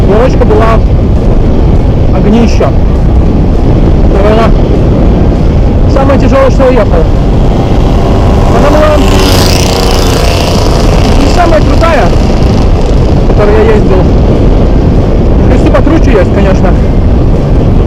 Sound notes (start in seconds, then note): 1.0 speak with noise of wind